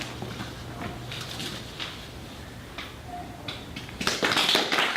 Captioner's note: audience applause